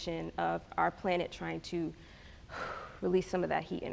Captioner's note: exhales